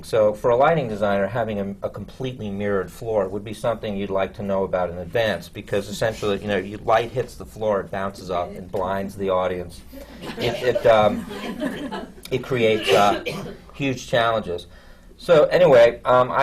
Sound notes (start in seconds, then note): 10.0 laughter